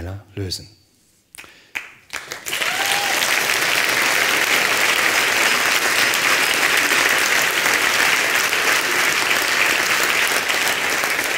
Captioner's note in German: Applaus